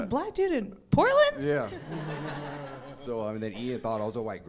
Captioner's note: audience laughing